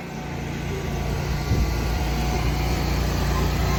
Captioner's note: motor humming